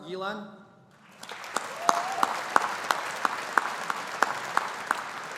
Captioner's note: audience applauding